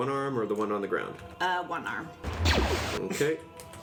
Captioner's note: blaster sound